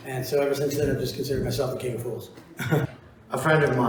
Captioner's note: laughs